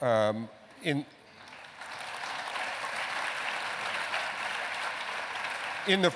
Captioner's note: applause